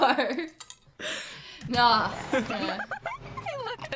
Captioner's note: laughter